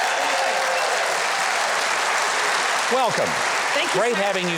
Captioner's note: audience cheering